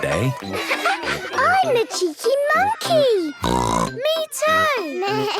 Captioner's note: snorts; bleating